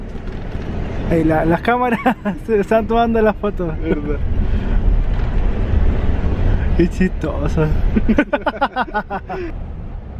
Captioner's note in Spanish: risas